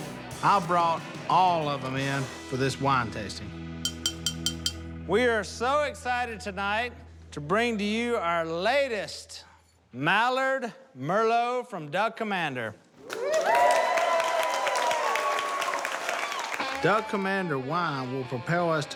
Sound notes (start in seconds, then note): 3.8 clinking; 13.0 cheers and applause